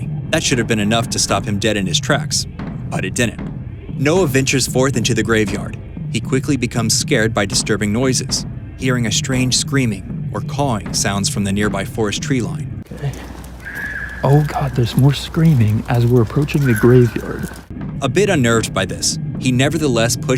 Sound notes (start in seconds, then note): 13.0 screaming